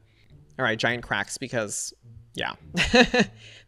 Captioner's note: laughs